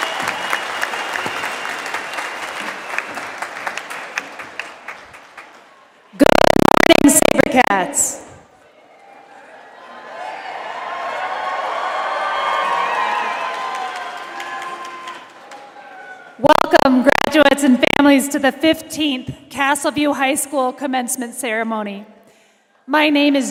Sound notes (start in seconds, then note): 2.6 applause